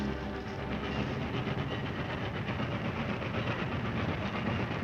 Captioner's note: train chugging